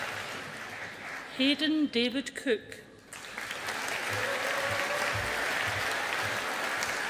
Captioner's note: audience applauding